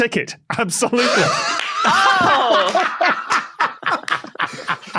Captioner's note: guests laughing